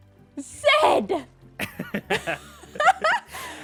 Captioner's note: laughs